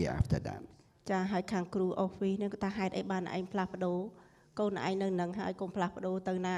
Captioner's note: speaking foreign language